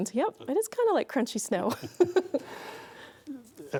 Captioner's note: laughing